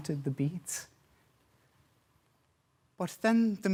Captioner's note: silence